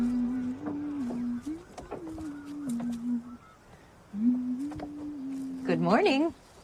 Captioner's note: humming